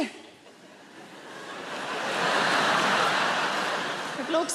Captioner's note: audience laughs